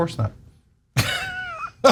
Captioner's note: laugh